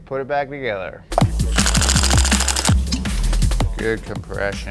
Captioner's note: machine whirring